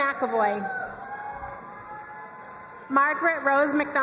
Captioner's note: crowd cheering and applauding